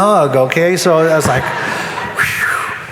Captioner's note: sighs